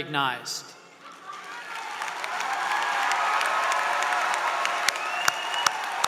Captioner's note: applause